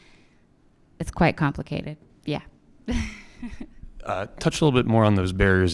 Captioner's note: chuckles